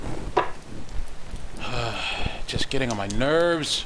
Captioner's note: ANOTHER sigh